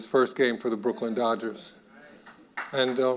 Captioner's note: audience applauding